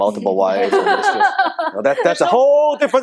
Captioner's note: laughing